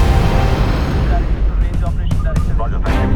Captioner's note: speaking over PA system